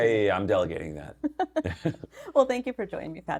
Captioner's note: laughing